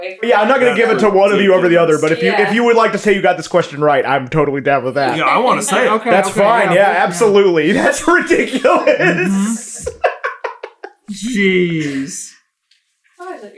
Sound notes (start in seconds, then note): 10.7 giggling